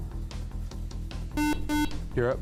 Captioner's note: buzzer